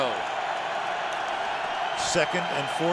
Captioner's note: cheering